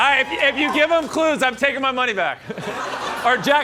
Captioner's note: laughter